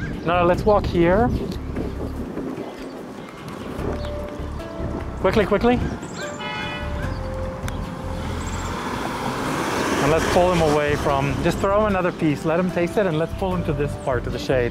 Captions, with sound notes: No no, let's walk here. Quickly, quickly. [Honk] And let's pull them away from, just throw another piece. Let him taste it and let's pull him to this part in the shade.